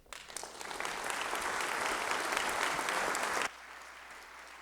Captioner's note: audience applauding